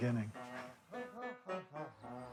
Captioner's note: chuckles softly